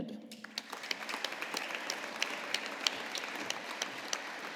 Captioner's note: audience applauding